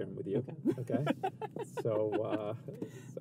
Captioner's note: laughs